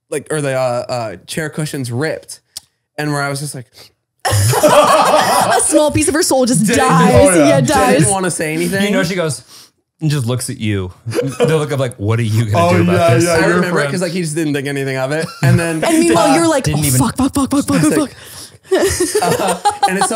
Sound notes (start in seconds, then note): 4.2 all laughing; 9.9 sniffs